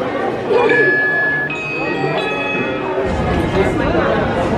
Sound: buzz of guest chatter; MagicBand chimes

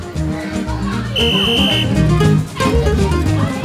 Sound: whistle

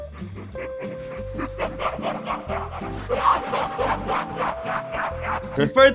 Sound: evil laugh

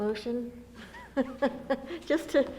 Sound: laughs

